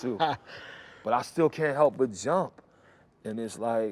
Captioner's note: laughs